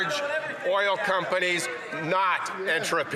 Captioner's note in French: voix de l'interprète